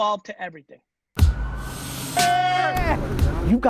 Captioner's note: shouting